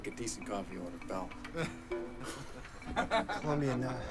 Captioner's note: derisive laughter